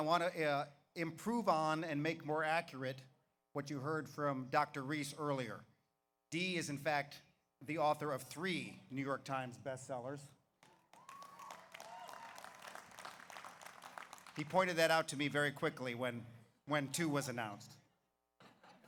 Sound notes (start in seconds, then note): 10.6 audience applauds; 10.7 audience cheers; 18.7 audience laughs